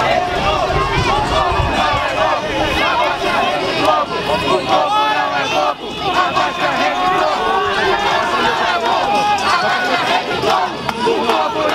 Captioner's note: chants